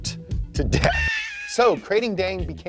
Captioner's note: screaming sound effect